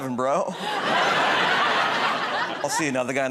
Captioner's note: laughter